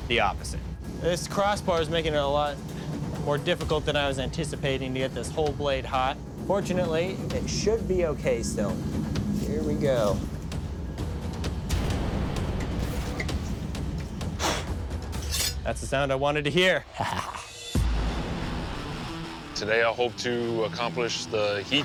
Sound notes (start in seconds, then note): 14.2 blowing; 15.1 blade scraping